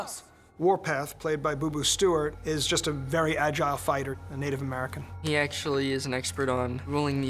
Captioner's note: none